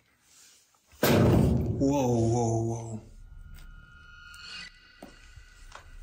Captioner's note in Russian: Громкий стук